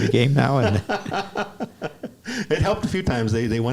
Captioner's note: laughs